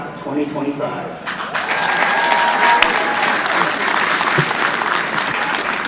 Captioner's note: audience applauding